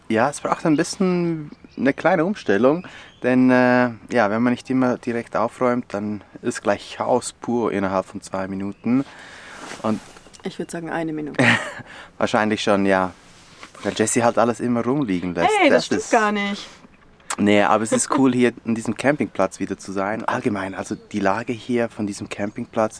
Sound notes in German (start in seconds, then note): 17.8 lacht